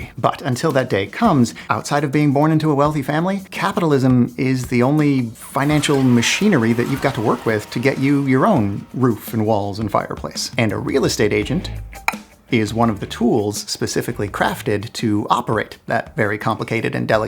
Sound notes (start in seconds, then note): 5.4 machinery